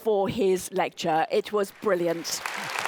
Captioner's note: applause